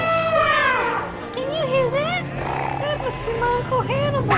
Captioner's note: 大象叫声